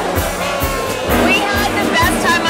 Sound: cheers

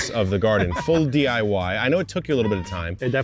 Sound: laughing

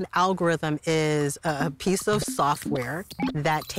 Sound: computer warbling

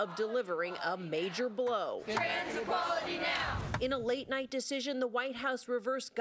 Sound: chanting "shame on trump"

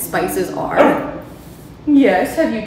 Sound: Gus barking

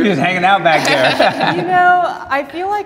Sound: group laughs

